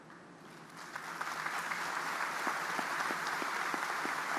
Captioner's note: audience applauding